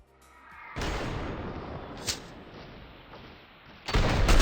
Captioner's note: gunshots firing